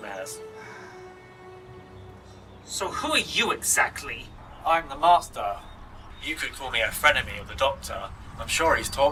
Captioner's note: sighing